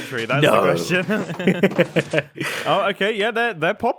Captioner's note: BOTH laugh